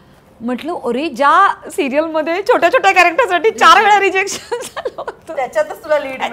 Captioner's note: Laughs